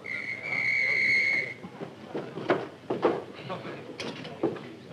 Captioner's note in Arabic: صافرة